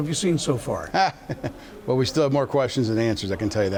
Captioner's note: laughs